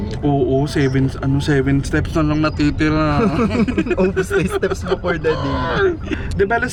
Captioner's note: laughs